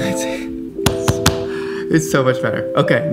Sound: taps table

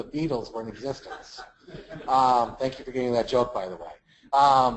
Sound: laugh

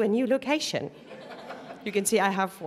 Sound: laughter

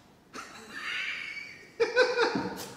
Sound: laughter

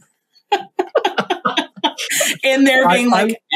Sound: both laugh

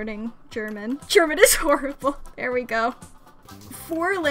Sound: through laughter

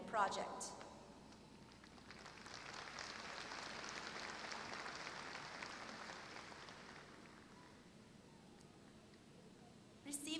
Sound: applause

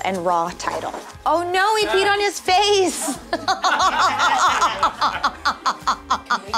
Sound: laughter

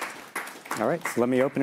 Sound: applause

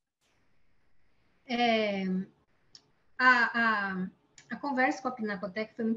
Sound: speaking in Portuguese

